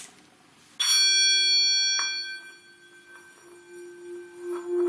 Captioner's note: ringing; clear resonating ringing